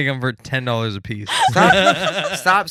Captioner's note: laughing